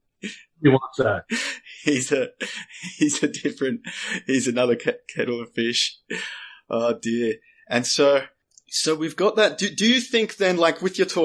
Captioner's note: laughs